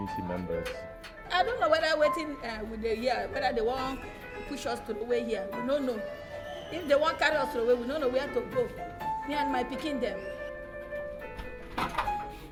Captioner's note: non-english speech